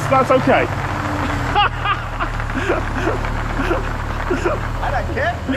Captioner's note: laughs uproariously